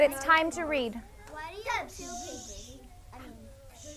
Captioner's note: multiple students talking